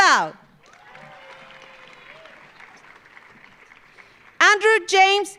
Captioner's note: audience cheering; audience applauding